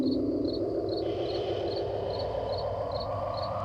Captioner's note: groaning